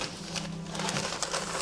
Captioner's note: papers raffle